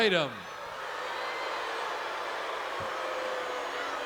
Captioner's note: crowd boos